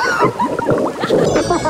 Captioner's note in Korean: 꼬르륵